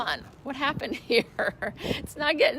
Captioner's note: laughing